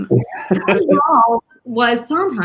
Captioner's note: Raúl laughs